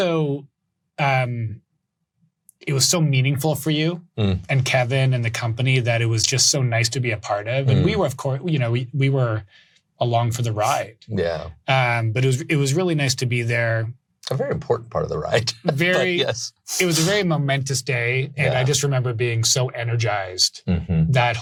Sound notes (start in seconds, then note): 14.3 laughs